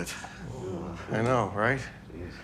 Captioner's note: audience groans